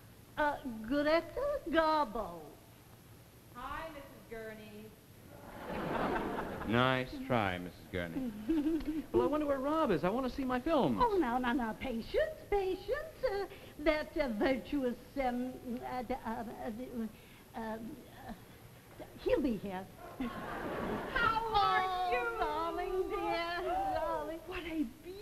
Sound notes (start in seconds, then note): 5.4 audience laughs; 8.0 Gurney giggles; 17.8 stutters